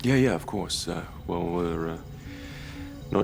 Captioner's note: gasps